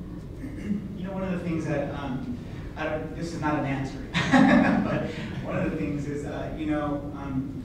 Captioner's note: laughs